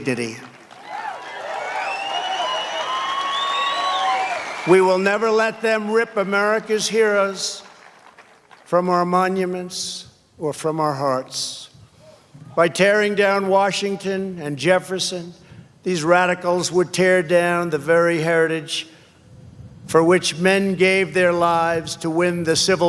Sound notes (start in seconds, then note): 5.5 applause